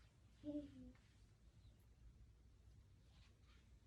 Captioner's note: child burbling